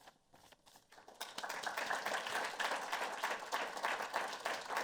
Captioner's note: applause